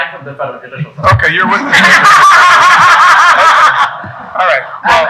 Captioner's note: people laughing